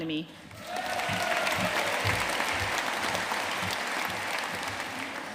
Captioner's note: audience cheering and applauding